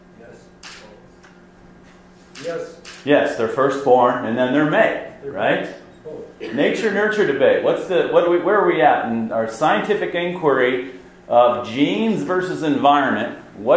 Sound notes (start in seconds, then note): 0.3 voiceover